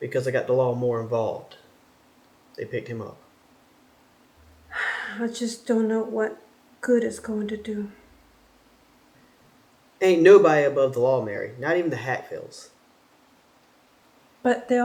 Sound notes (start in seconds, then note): 4.4 sighs